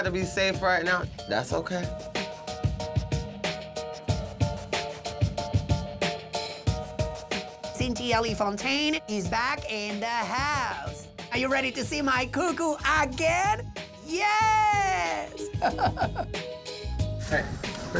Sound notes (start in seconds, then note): 13.6 chuckles